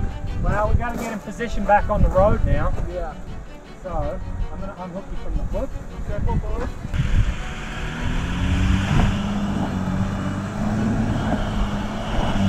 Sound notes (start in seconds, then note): 6.9 vehicle revving